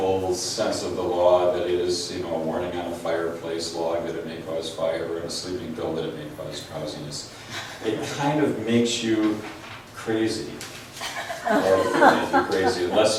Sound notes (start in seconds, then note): 11.0 laughs